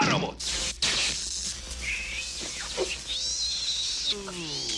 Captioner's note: electricity crackling; creature squealing loudly